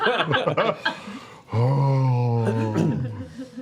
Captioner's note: breathes deeply